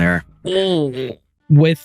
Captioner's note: groaning